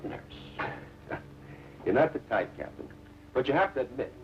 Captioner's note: chuckling